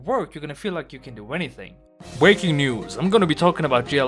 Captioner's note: news voice